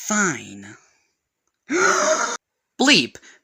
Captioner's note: breaths in